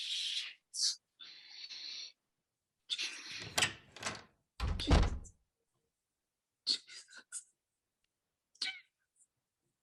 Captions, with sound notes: - Shit. (door closes) - Jesus. Jesus. Jesus.